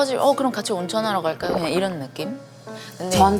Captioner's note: gulp